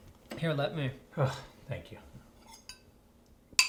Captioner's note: sighs